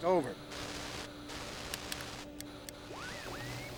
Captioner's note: radio Dial Clicking,</i> <i> Static Continues